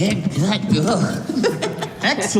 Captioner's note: laughs